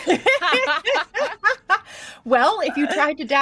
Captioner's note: group laughing